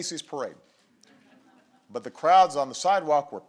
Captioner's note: laughter